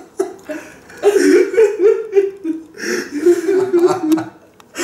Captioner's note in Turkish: yine ağlıyorlar